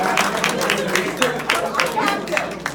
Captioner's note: cheers